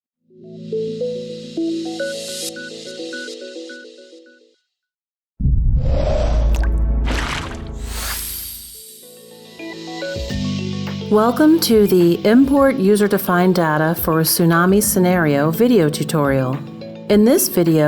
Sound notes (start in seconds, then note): 1.7 upbeat music; 5.4 sound effects; 10.0 upbeat music fades in